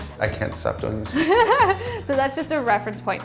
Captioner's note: laughs